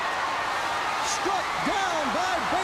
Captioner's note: crowd cheering